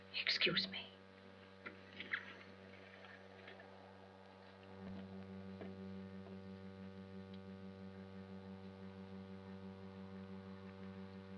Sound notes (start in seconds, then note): 4.2 footsteps